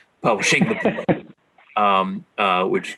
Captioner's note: laughs